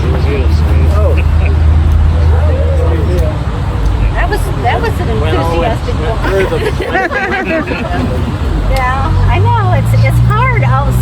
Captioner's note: laughter